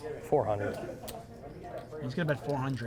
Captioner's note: crowd drowns out the dealer